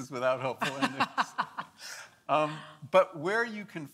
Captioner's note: laughs